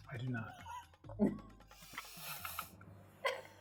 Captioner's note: laughing